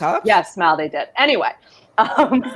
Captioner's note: laughs